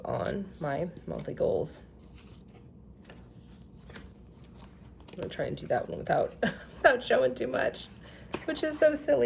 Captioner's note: giggling